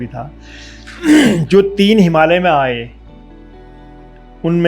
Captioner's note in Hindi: गला साफ़ करने की आवाज़